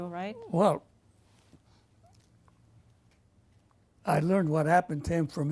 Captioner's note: pauses for 3 seconds